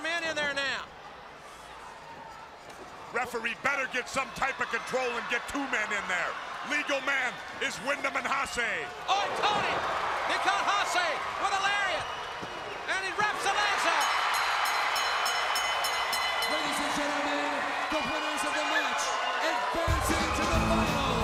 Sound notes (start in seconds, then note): 14.1 crowd cheering; 15.4 bell ringing